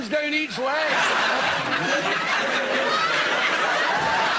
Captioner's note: laughter